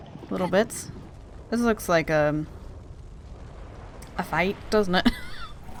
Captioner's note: laughs